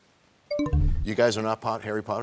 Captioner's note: bell chimes, time expires